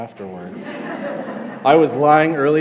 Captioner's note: class laughs